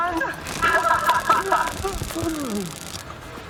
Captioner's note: soldiers laughing